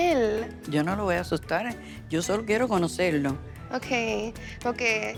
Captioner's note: speaking Spanish